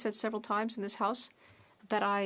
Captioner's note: speaking French